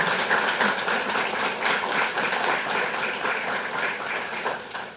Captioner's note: audience applauding